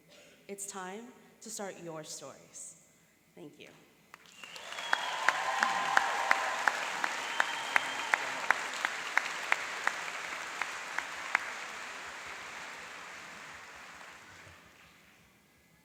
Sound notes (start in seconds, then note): 4.5 cheering and applauding